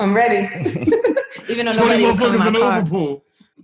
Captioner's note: laughs